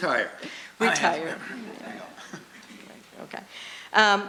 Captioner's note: voiceover